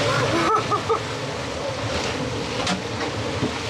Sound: laughs

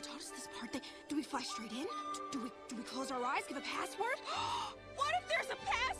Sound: gasp

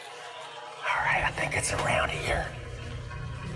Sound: whispers

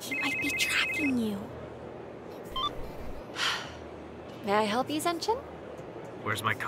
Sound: deep breath

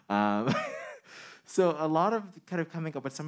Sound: man chuckling

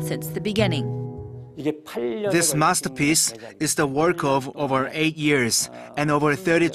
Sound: korean

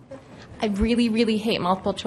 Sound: voiceover

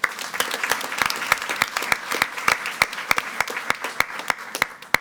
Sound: attendees clapping

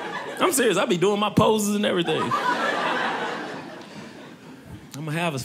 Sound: audience laughing

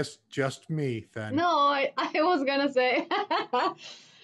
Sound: laughter

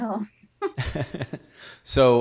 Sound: laughing

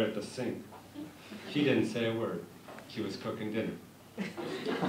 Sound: laughter

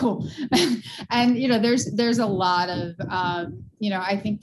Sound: chuckles

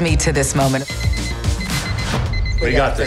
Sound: alarm beeping

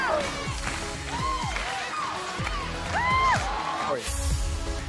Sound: cheers

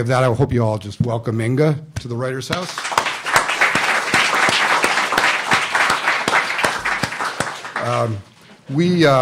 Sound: applause

